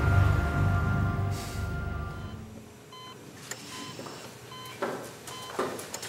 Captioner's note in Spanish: Bip del monitor